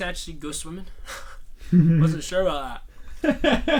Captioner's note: laughs